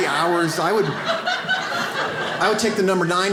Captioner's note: audience laughs